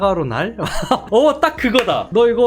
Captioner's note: laughing